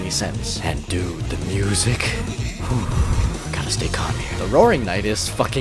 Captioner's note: exhales